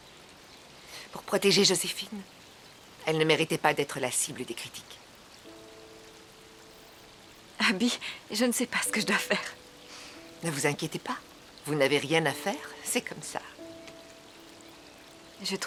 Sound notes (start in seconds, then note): none